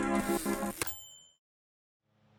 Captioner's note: typewriter dings